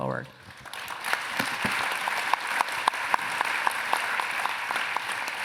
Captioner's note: applause